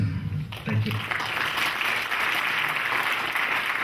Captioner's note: clapping